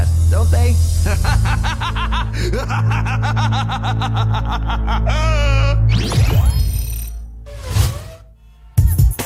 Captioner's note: laughing